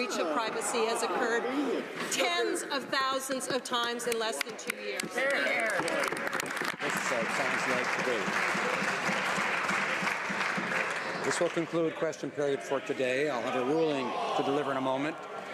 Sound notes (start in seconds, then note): 8.6 some Applause